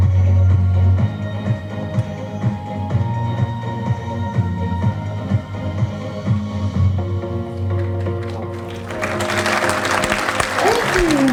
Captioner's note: applause